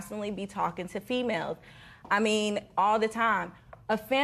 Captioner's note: none